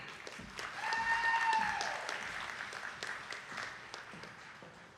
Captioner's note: attendees clapping